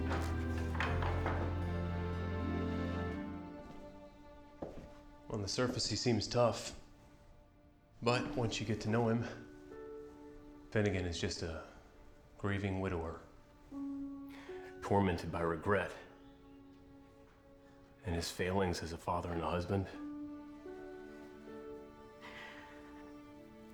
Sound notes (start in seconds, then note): 0.0 door opens; 3.9 footsteps